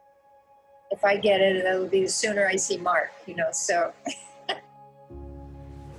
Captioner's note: laughs